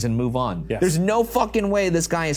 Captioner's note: none